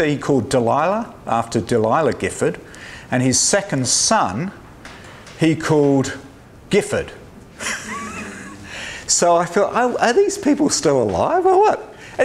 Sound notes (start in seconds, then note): 7.6 laughs